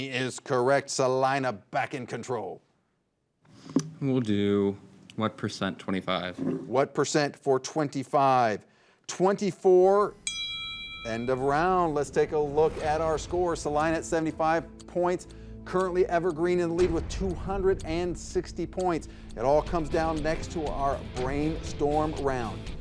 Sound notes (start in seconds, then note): 10.1 bell rings; 14.8 upbeat music